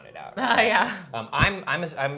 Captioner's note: laughing